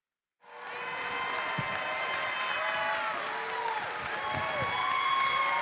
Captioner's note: audience cheering